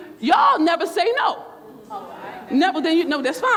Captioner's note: crowd murmurs